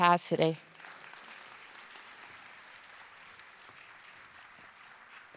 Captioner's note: audience applauding